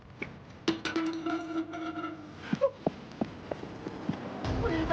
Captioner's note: bottle rattles